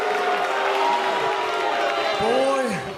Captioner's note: cheers and boos